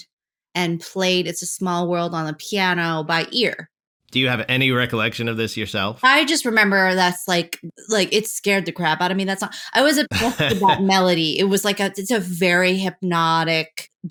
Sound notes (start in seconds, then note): 10.1 laughter